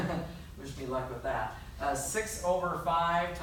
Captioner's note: laughs